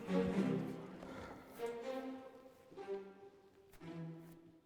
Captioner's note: man sighs